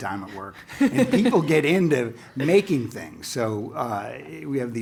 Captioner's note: laugh